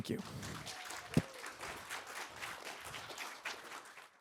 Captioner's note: applause